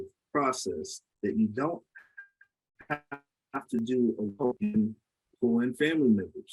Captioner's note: audio distorts